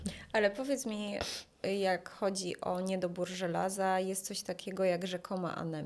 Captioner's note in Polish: parsknięcie